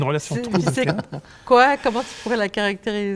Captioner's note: laughs